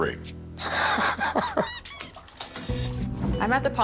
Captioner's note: chuckles; rubber ducky noise